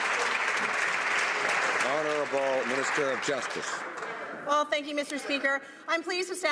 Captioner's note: some Applause